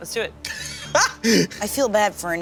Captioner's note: laughing